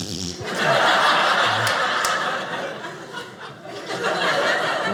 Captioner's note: audience laughing